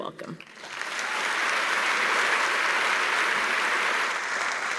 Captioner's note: applause